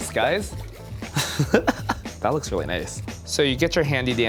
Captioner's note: chuckles